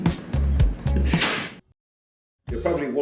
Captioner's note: slap